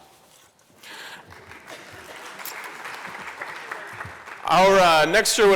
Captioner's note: applause